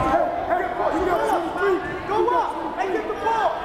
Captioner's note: crowd murmuring